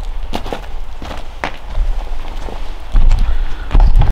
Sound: footsteps crunching

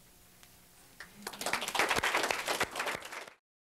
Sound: applause

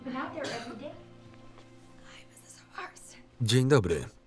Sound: hoarse voice

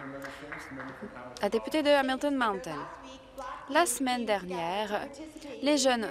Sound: some Applause

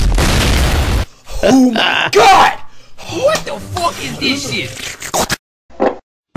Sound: slurping

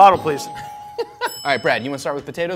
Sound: bell dings; laughs

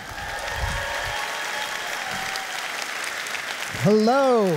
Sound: audience applauding

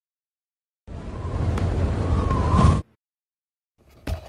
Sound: wind

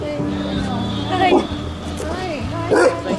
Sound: bark

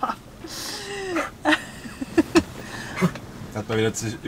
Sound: Caesar is coughing

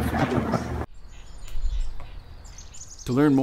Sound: bird sounds

